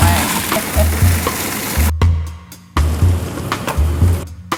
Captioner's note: mixer motor revs